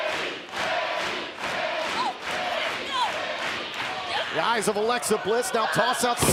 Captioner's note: fans chanting